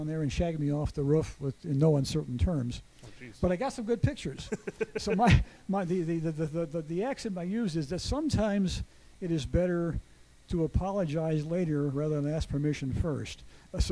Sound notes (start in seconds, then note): 4.4 chuckles